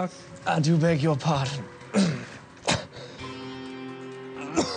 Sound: coughs

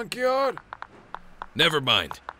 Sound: ooze detector noises

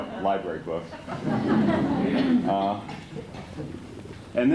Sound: laughter

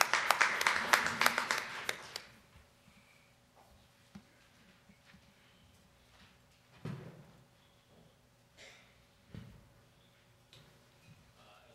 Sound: applause

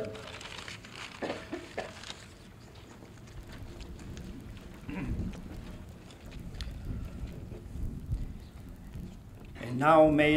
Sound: paper rustling and footsteps

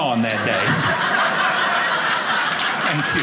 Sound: audience laughing; audience applauding

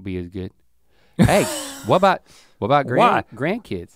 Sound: Rhett laughs

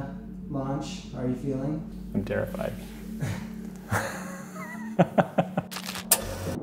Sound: laughs

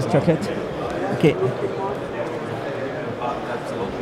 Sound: crowd murmuring

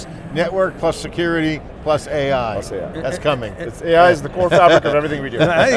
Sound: laughs

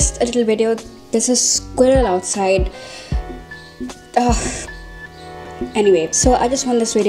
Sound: ugh

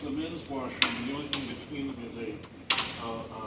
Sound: cane banging

